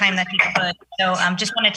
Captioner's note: object thudding